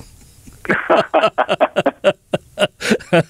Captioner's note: laughter